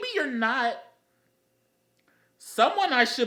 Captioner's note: intellectual Silence